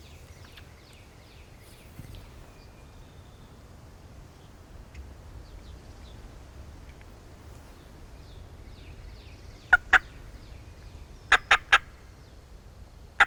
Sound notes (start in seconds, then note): 11.3 turkey call